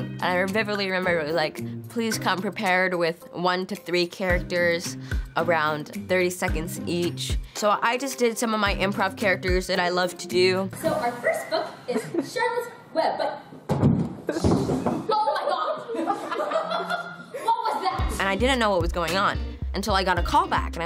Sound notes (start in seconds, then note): 13.6 body thudding; 15.0 people laughing